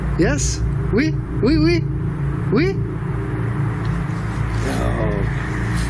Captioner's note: speaking in foreign language